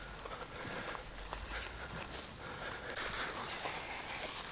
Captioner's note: heavy breathing